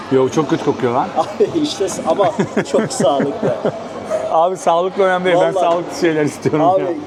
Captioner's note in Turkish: kahkaha